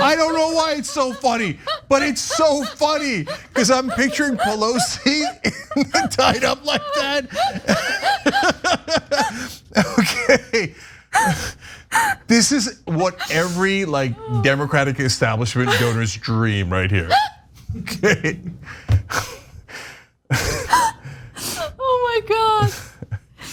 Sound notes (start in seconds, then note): 10.2 laugh; 20.3 laugh